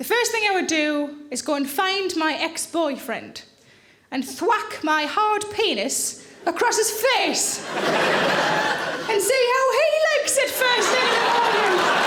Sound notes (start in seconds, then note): 7.3 audience laughing